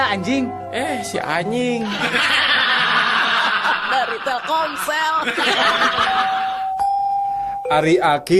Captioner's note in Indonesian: tertawa